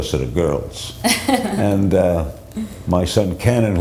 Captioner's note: laughs